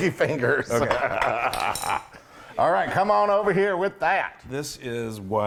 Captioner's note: laugh